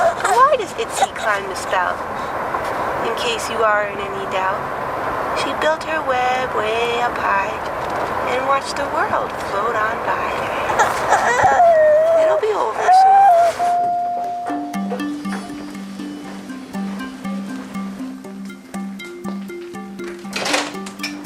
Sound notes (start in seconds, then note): 0.0 crying; 10.7 crying; 13.8 upbeat music